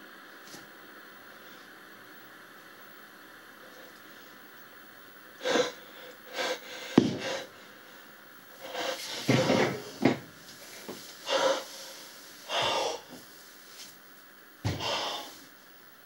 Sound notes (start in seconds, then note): 5.2 heavy breathing